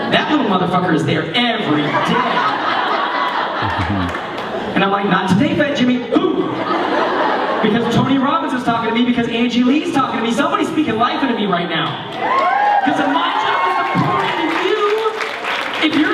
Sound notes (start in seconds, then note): 1.8 laughter; 12.1 cheering